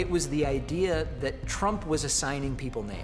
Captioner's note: crowd cheering